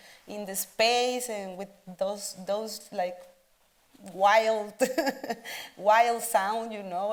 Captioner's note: chuckles